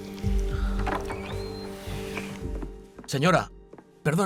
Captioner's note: door creaks